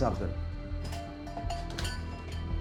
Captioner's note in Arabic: رنين جرس الباب